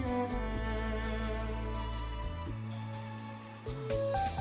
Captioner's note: rumble